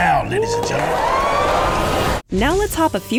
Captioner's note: cheering